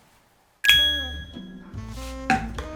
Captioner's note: ding; snaps